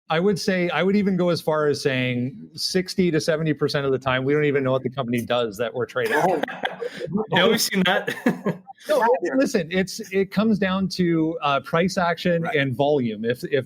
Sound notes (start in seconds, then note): 6.0 laughing